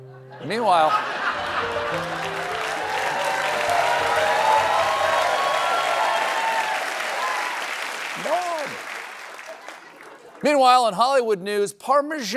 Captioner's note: cheers and applause